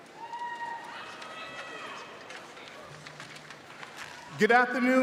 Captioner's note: audience cheers